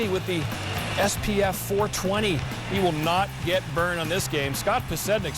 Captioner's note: crowd booing and clapping